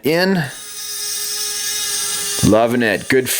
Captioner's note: motor running